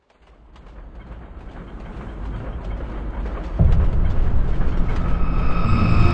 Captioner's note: train moving on tracks